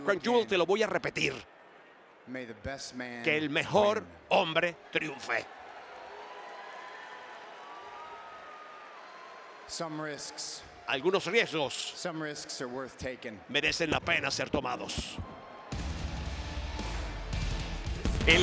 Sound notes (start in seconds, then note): 0.0 applause; 5.0 applause